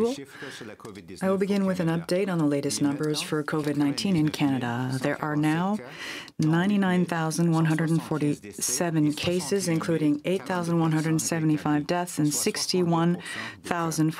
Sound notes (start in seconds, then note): 3.5 speaking French